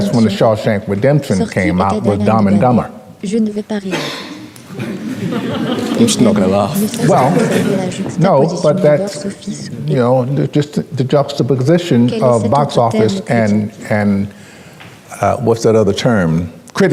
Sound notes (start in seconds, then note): 4.6 crowd laughing